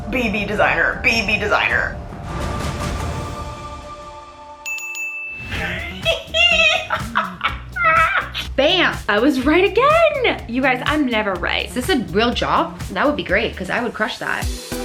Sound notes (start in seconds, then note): 4.6 ding ding ding; 5.6 excited laughing